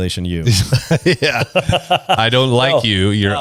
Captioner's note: laughs